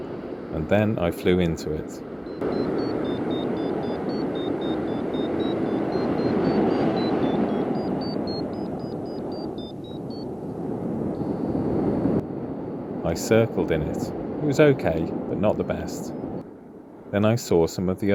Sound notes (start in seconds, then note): 6.1 Vario Beeping